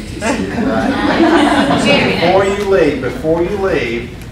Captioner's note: laughter